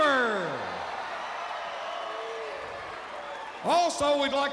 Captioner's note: crowd cheering